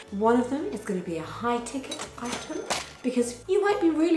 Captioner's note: cash register rings